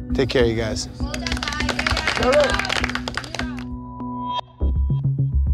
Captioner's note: challengers clapping; gentle intense music